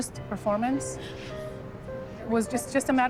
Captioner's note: sobs